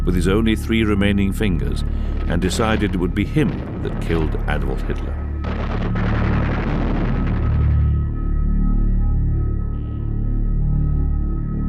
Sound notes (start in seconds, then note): 6.0 bombs exploding; 6.0 ominous music